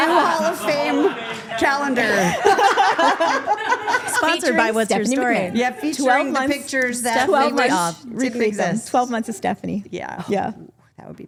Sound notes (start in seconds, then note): 1.9 group laughing